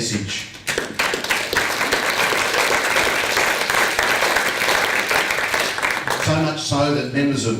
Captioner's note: applause